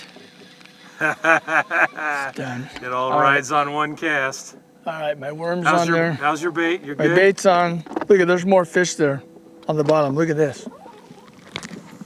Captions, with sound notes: [laughter] it all rides one cast ok my worms on there. How is your bait? my bait is on look at there's more fish there on the bottom look at this